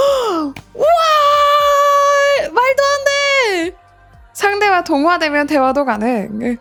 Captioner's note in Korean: 비명